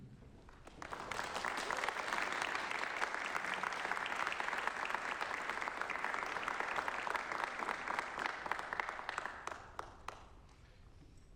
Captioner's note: applause